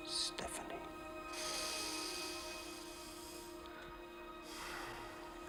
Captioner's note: sniffs